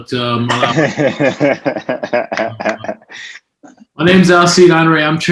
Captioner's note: laughs